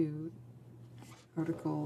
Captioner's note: speaking French